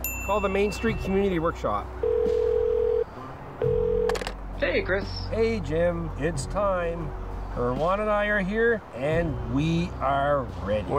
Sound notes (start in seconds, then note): 0.0 phone beeps; 2.0 phone ringing; 4.3 on phone